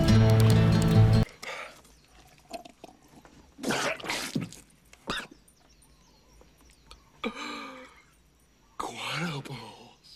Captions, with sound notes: (coughs) - Guano bowls.